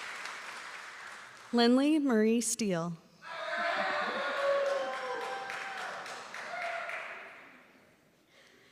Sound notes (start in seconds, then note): 0.0 applause